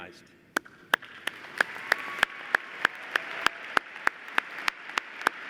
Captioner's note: applause